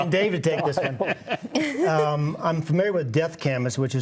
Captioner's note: mumbles